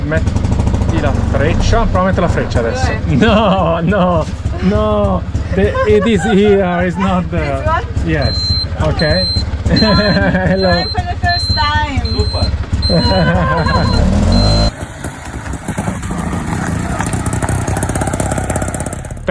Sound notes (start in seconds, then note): 6.7 laughing; 12.8 laugh; 14.7 rickshaw engine